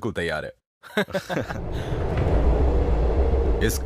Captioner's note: chuckles